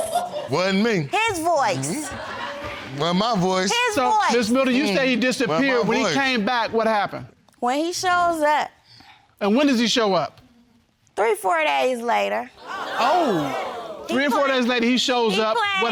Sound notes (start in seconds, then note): 1.7 audience laughs; 12.6 audience gasps